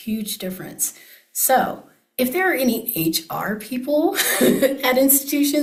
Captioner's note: laughs